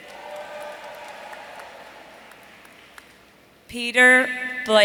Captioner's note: audience cheering